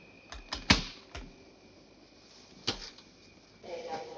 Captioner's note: baggage clicking